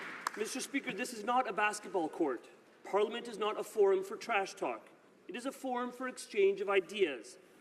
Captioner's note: applause